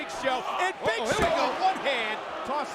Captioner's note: body thudding